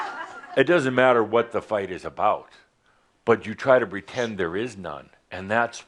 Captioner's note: more chuckles